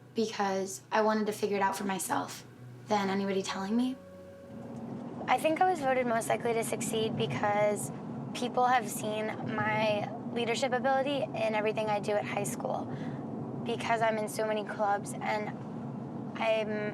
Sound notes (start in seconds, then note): none